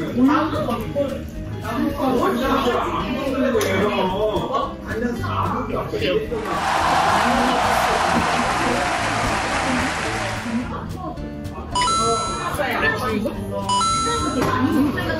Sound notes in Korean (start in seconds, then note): 6.4 짝짝 / 짝짝